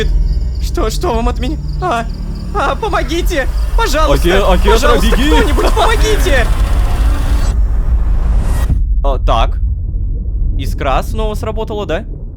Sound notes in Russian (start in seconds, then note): 6.4 Звук телепортации Искры